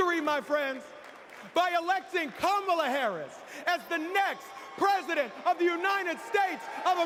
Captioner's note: cheers and applause